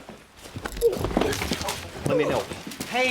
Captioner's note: papers shuffling; bodies thudding